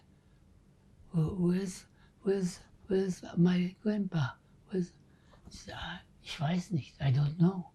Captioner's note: german